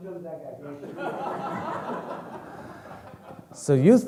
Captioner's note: speaking in foreign language; audience laughing